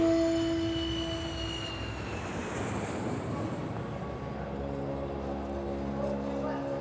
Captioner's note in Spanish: sonido de aviones pasando